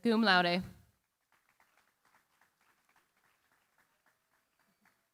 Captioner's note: applause